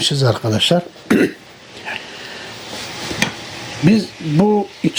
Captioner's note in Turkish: boğazını temizler